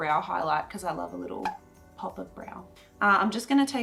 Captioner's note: bubble popping